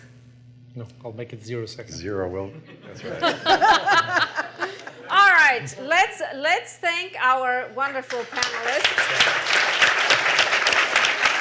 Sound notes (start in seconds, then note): 2.5 laughter; 8.0 applause